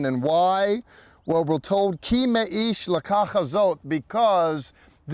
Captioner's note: speaking in Hebrew